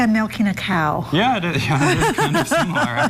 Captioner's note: both Laughing